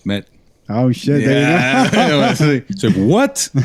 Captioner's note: laughter